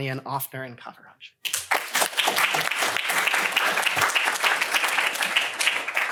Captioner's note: applause